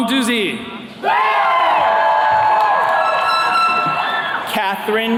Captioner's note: attendees cheering